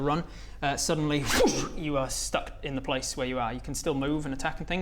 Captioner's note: zoosh